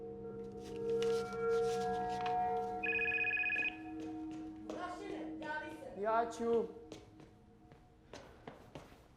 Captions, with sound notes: “MISSING” (phone rings) Vukasin, answer the phone! -I’ll take it.